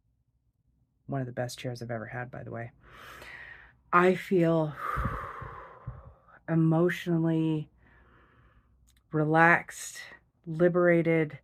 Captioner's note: exhales